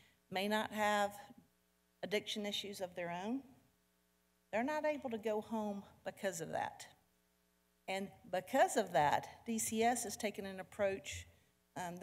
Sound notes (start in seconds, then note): none